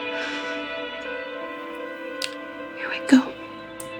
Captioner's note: Ally sighs